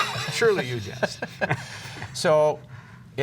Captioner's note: laughter